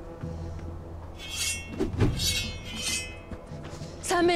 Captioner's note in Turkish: Kılıç Sesleri